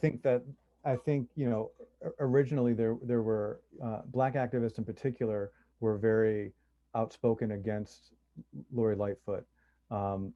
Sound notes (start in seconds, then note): none